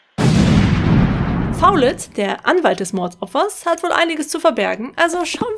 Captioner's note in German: Explosion